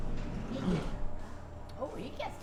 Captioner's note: conversation